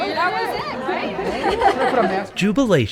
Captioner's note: laughs